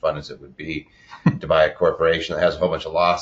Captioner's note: laughing